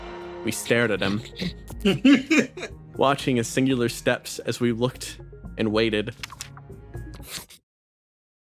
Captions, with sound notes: We stared at him [Laughs] Watching as singular steps as we looked and waited